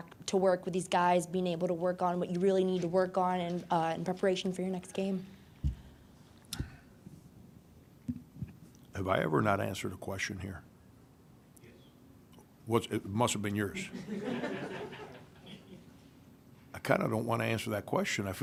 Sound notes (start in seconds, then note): 13.9 laughing